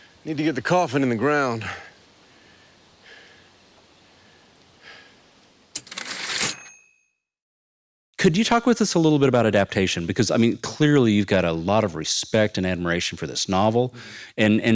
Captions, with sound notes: Need to get the coffin in the ground. [typewriter ding] - Could you talk with us a little bit about adaptation? Because, I mean, clearly you've got a lot of respect and admiration for this novel,